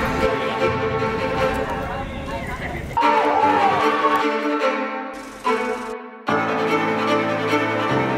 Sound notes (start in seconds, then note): 0.0 students Talking; 2.9 cheering